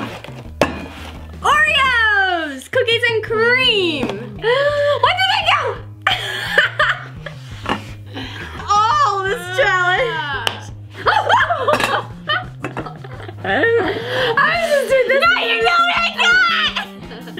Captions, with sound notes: Cookies and cream! One, two, three, go! (laughs) Oh, this challenge. (gasp) (laughs) Now you know what I got!